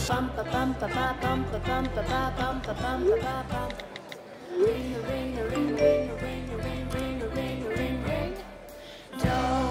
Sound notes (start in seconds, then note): 0.2 cheerful music; 5.6 phone dings